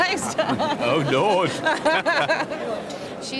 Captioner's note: they laugh